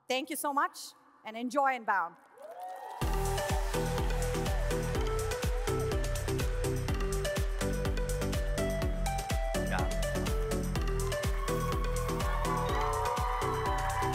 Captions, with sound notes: Thank you so much and enjoy Inbound. (audience cheers) (upbeat music)